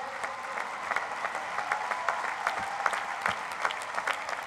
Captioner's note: cheering